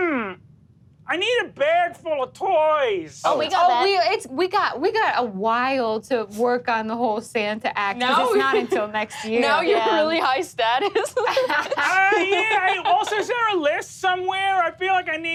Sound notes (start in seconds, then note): 10.8 laughs